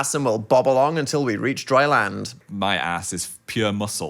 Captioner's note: none